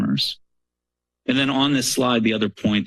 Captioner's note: pause